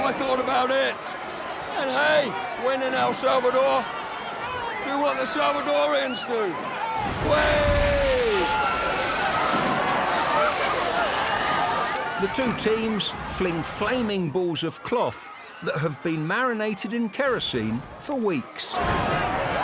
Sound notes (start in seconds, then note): 7.3 yells; 9.2 crowd cheers; 10.4 fire crackles; 18.2 crowd cheers and screams